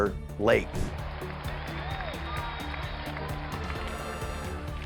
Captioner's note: people cheering